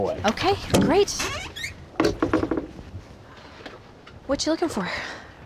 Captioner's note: creaking sound